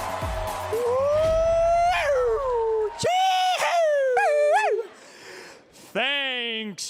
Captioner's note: cheering